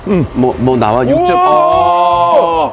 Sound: dripping

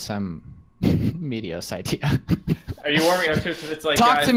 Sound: laughter

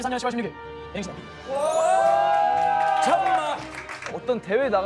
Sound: applause

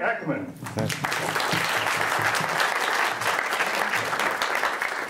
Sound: audience clapping

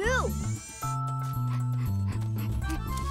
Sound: panting

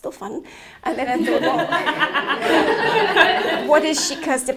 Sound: laughing

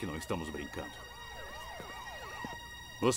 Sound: sirens approaching

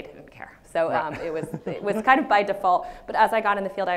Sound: laughs

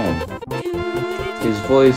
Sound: dooooo dee d

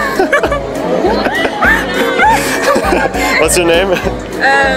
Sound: laughing

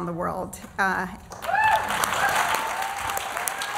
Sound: applause

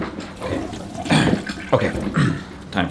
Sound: toilet flushes

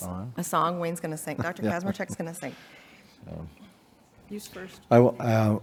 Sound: chuckling

